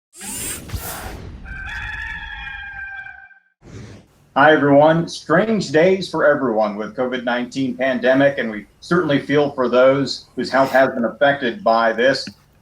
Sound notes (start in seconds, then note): 0.1 electronic whirring; 1.4 rooster crows; 3.6 whooshing